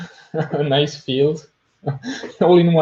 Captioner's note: chuckles